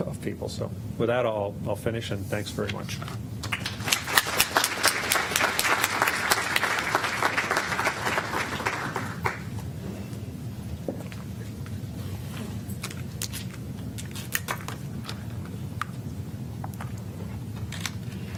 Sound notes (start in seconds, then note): 3.4 applause